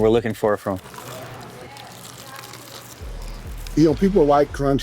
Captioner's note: chicken crunching